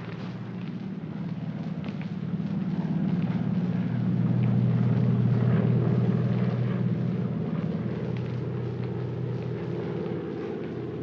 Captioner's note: aircraft rumbles overhead